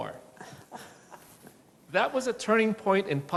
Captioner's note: laughing